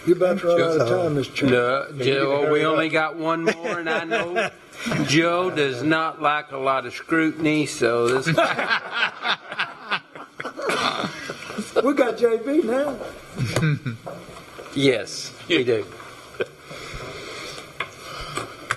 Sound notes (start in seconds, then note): 8.2 laughter